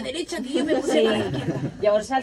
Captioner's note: laughing